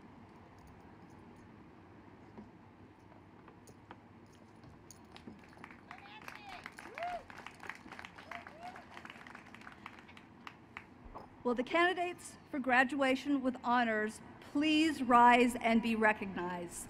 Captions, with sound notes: [ Applause ] >> Will the candidates for graduation with honors please rise and be recognized.